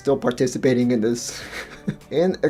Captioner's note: laughs